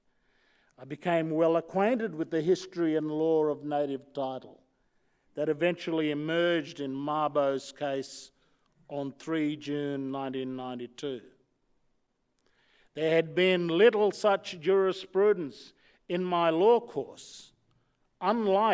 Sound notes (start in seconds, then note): none